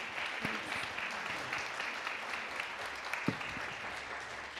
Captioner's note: applause